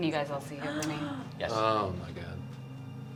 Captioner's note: gasps